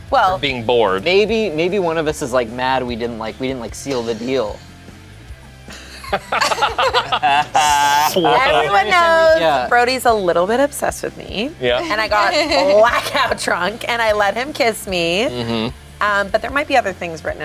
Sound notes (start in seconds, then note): 5.7 group laughs